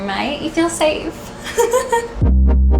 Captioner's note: laughs; upbeat electronic music